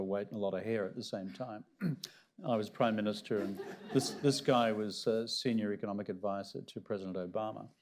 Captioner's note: laughter